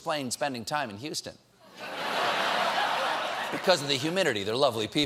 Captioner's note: laughter